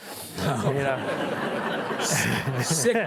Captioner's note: audience chuckling